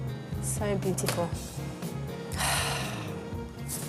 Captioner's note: sniffs and sighs